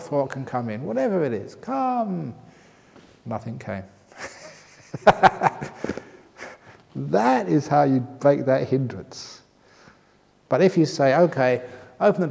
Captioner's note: laughter